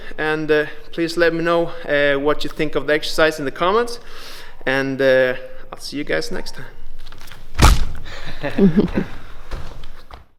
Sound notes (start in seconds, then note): 8.1 both laugh